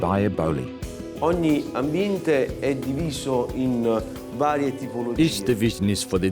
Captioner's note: speaks italian